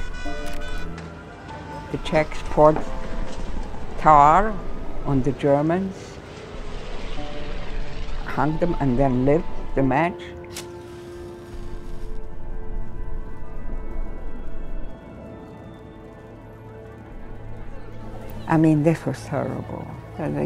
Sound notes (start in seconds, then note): 10.4 match crackles; 14.0 suspenseful music